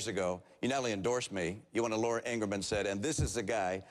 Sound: none

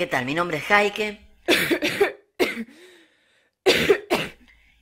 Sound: cough

